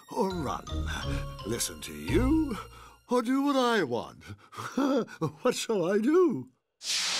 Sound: laughs

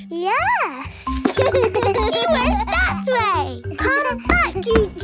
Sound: giggles

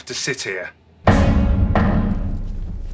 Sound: pounding

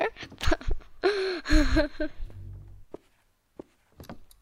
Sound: giggling

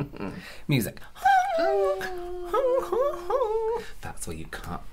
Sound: then Some Kind Of Out of Tune Humming

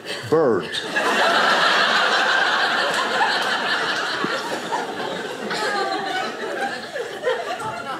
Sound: audience laughing

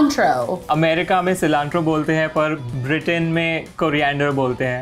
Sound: speaking in Hindi

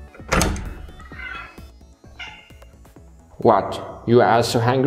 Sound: cat mews

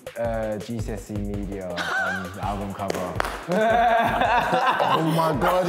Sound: laughs

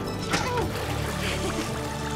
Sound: elf 2 speaking Elvish; elf 3 chuckles, grunts; laughs; elves chattering

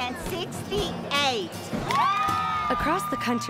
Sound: cheering

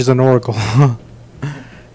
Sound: laughs weirdly

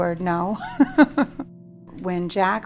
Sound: laughs

